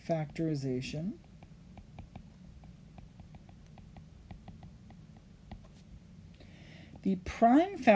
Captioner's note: writing